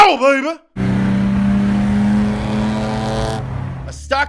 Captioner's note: car engine roars